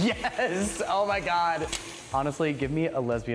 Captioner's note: laughs